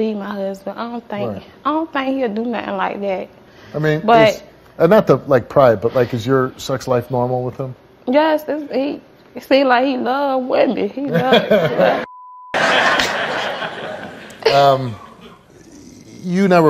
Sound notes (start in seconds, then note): 12.6 all laughs